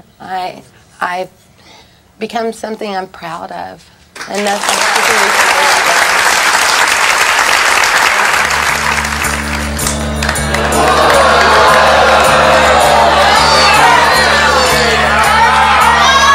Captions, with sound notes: I've become something I'm proud of. (audience claps) (audience boos)